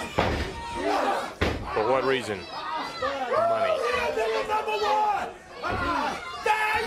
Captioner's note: crowd chatter